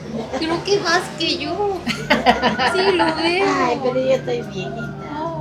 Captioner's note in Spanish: risas